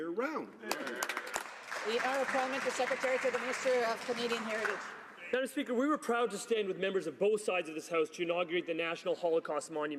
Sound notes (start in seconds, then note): 3.7 some Applause